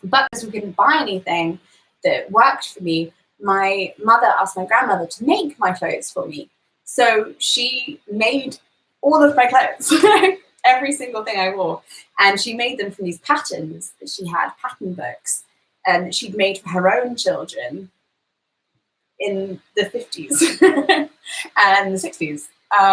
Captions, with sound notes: But because we couldn't buy anything that worked for me, my mother asked my grandmother to make my clothes for me. So she made all of my clothes. (laughs) Every single thing I wore and she made them from these patterns that she had, pattern books, she'd made for her own children in the '50s (laughs) and the '60s